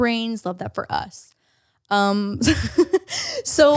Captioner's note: laughs